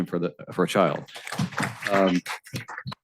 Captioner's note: applause